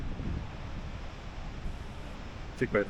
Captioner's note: wind blowing